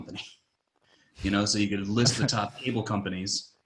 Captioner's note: laughing